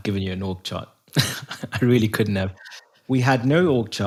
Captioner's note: laugh